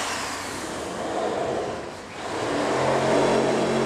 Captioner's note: dull sawing sound